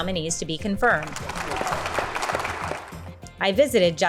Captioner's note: applause